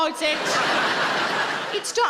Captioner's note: audience laughing